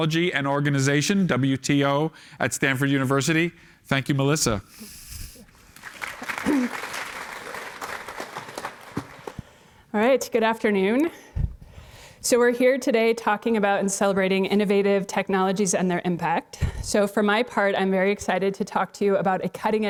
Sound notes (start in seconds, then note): 5.7 applause